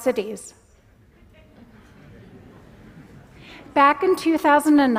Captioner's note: laughter